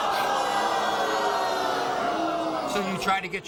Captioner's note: audience jeering and swearing